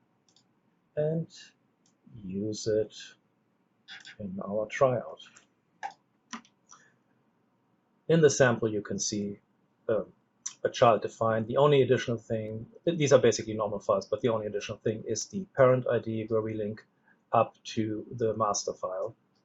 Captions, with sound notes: and use it in our tryout. (keyboard clicks) In the sample, you can see a child defined the only additional thing. These are basically normal files, but the only additional thing is the parent ID where we link up to the master file.